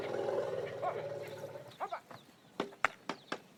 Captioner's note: man shouting